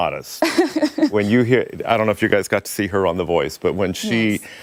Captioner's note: laughter